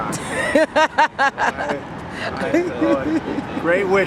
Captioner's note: laughter